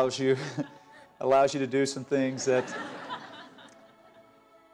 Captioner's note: laughter